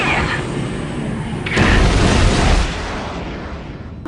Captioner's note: explosion